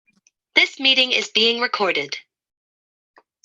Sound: voiceover

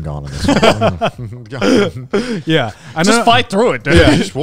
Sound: laughing

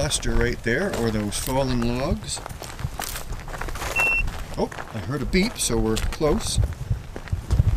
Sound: GPS beeps

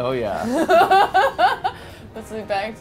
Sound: laughing

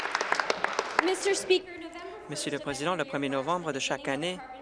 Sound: speaking in French

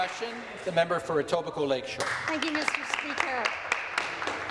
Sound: applause

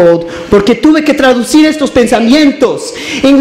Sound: speaks in Spanish

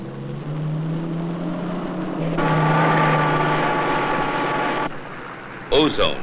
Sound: car engine revs

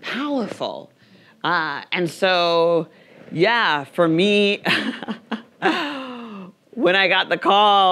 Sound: laughs

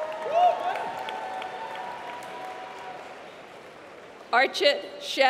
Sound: applause

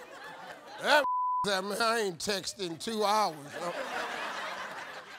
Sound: beep; audience laughing

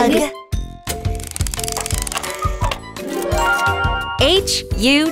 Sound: tile clicking; bells chiming

